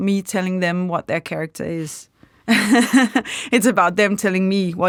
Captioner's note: chuckles